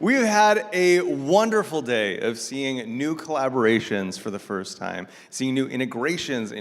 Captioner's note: none